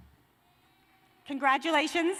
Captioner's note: cheers and applause